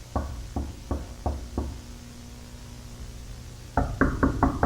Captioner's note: knocking on door